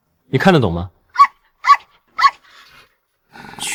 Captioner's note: woof woof woof